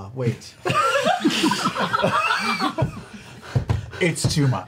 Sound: all laugh

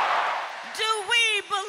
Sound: applause; cheering

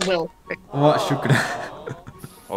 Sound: Arabic

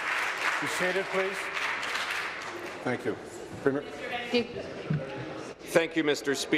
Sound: applause

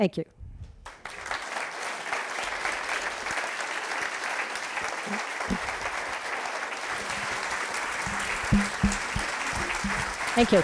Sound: applause

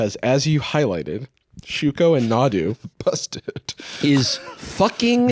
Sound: laughing

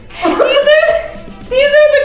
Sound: both laughing

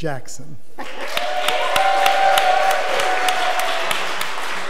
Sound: audience applause

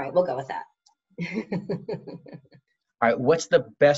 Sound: laughs

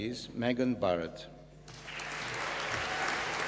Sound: applause

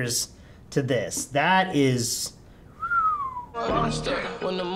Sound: whistles

